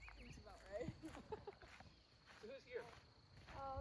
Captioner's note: laughs